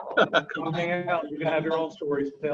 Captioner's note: laughing